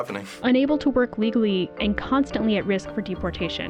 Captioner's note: voice-over